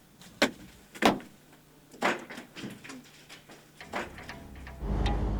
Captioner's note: rock clattering